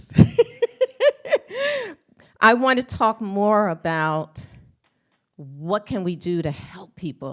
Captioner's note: laughs